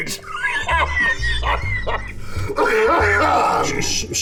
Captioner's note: Bunny coughing